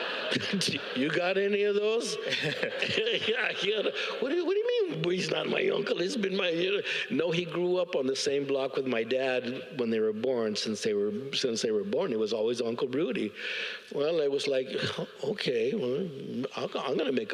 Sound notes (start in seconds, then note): 5.5 audience laughs